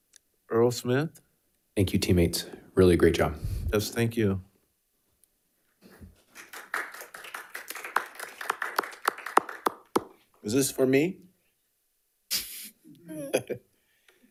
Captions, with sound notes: Earl Smith. - Thank you, teammates. Really a great job. - Yes, thank you. (attendees applauding) - Is this for me? (laughs)